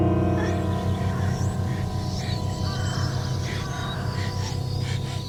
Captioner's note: fast breathing